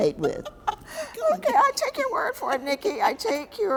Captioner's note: laughs